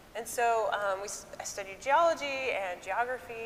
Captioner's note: none